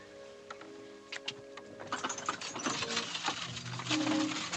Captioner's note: clicks Tongue